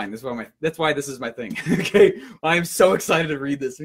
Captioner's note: laughs